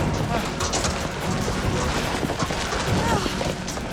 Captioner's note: loud rumbling